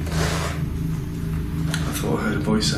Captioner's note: static squeaking